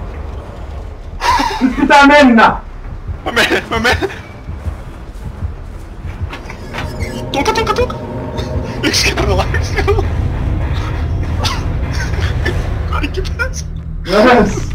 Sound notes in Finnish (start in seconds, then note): 1.2 Nervous laughter; 11.2 Laughing